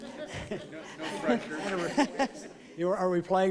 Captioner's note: laughter